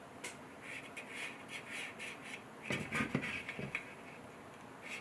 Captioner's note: pen scratching